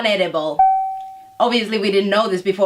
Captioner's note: ding